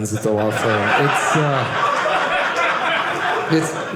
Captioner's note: audience laughing